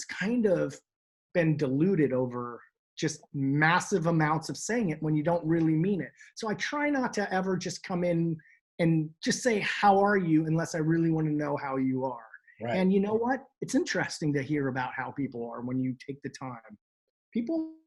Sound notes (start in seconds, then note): none